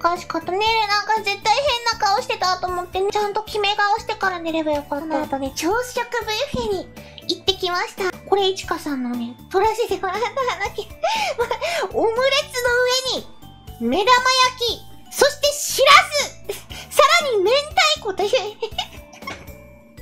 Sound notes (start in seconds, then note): 10.0 laughs; 18.3 laughs